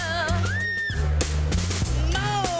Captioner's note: Masika squeals